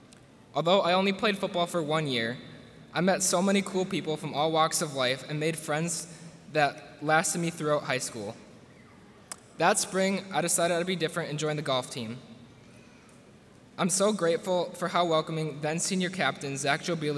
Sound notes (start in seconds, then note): none